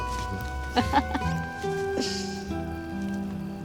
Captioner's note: they laugh